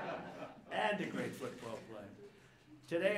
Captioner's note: laughter